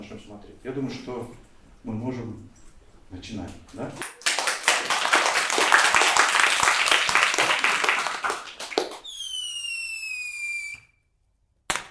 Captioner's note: applause